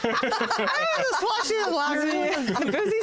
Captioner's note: slurring